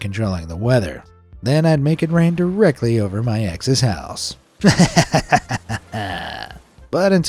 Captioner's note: laughs